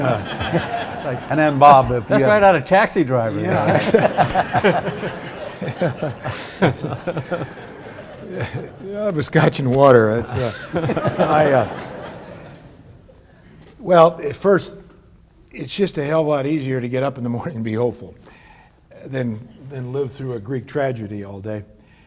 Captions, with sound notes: (audience laughs) And then Bob, if you have-- That's right out of Taxi Driver, you know. (laughs) Yeah, actually. (laughs) (audience laughs) I'll have a scotch and water. (audience laughs) Well first, it's just a hell of a lot easier to get up in the morning and be hopeful than live through a Greek tragedy all day.